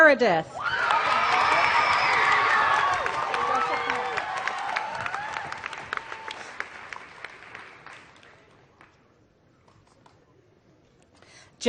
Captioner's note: applause